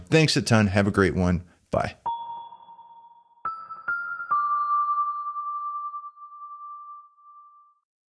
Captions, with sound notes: Thanks a ton, have a great one. Bye. (logo chiming)